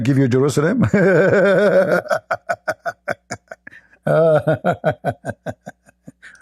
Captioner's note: Ketawa